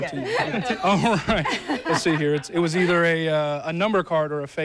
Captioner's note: laughter